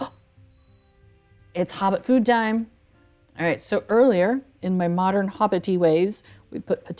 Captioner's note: gasp